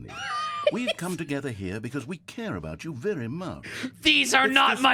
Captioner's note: laughs